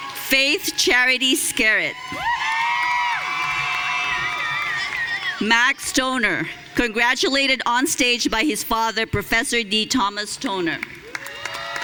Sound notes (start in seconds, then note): 2.1 audience cheering; 11.0 audience cheering